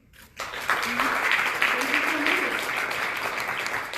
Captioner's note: applause